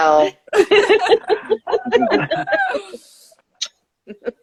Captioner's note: laughing